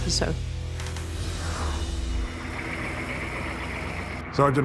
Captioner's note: engine humming